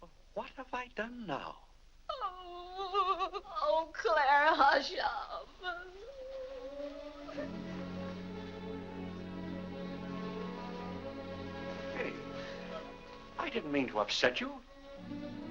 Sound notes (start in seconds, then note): 1.8 weeping; 5.6 soft sad music